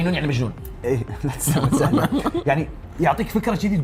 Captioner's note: chuckles